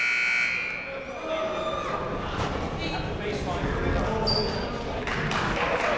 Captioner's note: buzzer ringing; people talking in the crowd; crowd clapping